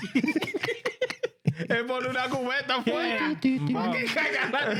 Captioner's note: speaking In Foreign Language